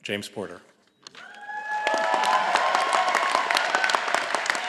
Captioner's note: all applauding